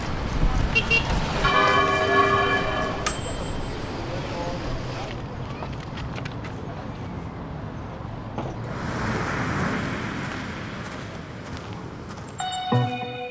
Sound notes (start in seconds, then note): 1.4 bell; 8.6 waves